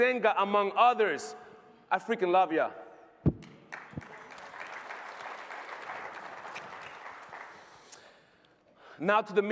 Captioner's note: applause